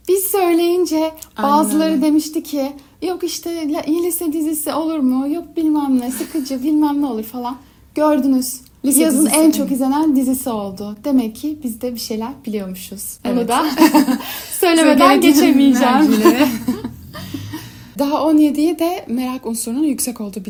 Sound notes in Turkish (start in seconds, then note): 13.6 kahkaha